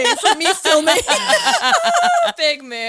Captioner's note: all laughing